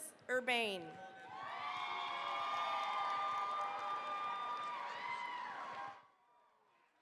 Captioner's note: cheering, applause